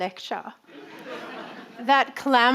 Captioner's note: audience laughing